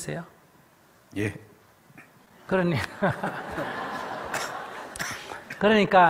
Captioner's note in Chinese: /听众 笑